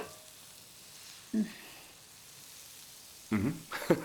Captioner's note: sizzling